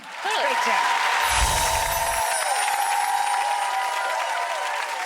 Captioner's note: audience cheering